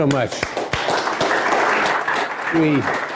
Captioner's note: applause